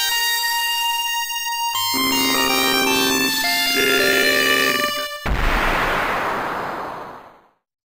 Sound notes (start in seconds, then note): 5.2 explosion